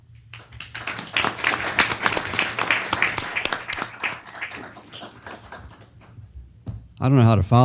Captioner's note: applause